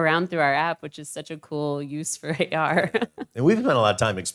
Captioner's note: laughs